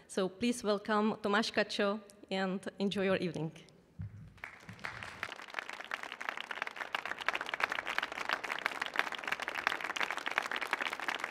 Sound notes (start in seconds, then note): 4.3 applause